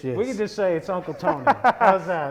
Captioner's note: laughing